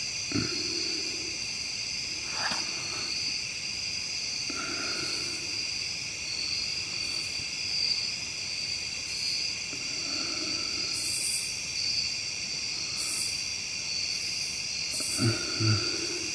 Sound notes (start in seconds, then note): 2.3 breathing uneasily; 5.3 insects chittering